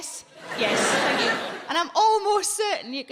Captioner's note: audience laughing